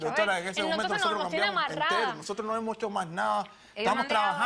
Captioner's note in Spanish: Hablan al unísono